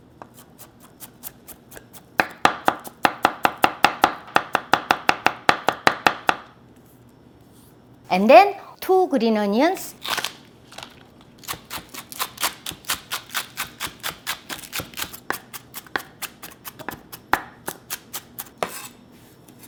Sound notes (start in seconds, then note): 0.1 rapid chopping; 10.0 crunching; 11.5 rhythmic chopping